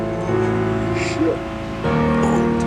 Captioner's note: yawns